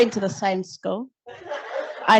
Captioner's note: laughter